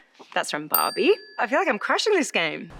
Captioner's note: bell dings